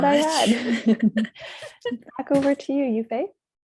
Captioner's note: laughs